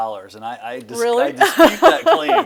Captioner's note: laughs